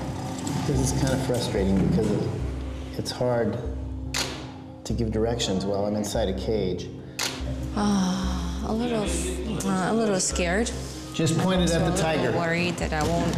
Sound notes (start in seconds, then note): 7.8 sighs